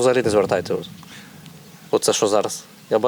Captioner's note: sounds of explosions